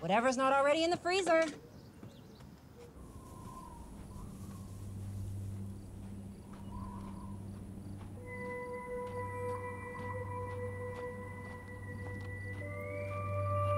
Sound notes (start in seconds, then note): 3.2 wind howling; 8.3 eerie music playing